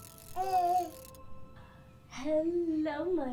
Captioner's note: baby cooing